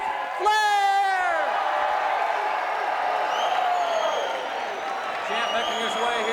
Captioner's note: crowd cheering